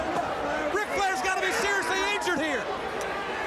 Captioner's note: crowd chatter